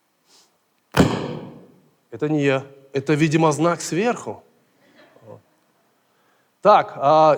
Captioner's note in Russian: звук удара